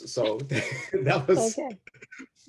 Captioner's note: chuckles